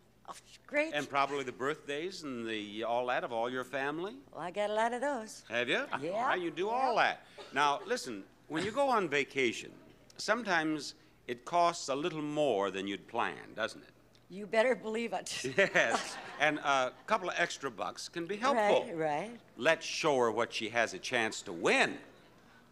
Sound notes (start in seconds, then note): 5.3 laughs